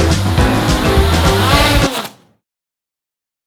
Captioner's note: drone crashing